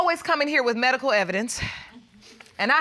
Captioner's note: sighs